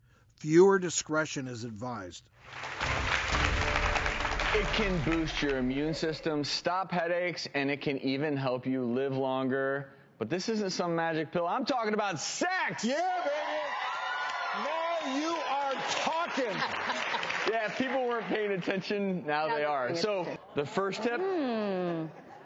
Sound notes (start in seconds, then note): 2.4 audience applauds; 12.8 audience cheers